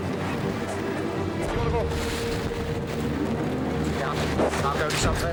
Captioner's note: waves crashing; water whooshing; boat droning